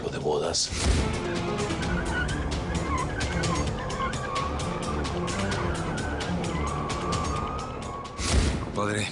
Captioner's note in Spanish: Chirrido de neumáticos